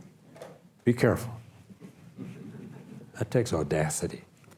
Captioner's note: audience laughs